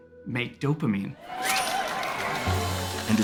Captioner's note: tumblers spinning